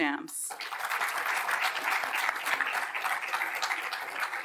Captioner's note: audience applauding